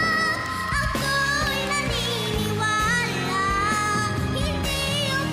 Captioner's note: applause, cheering